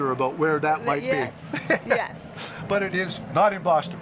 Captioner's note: chuckles